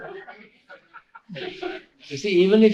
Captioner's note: laughter